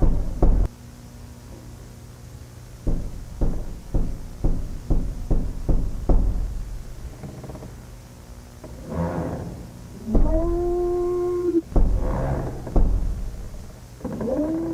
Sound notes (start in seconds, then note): 0.3 knocking on wood; 8.6 wood creaking